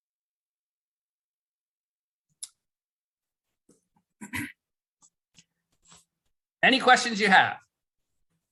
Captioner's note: cough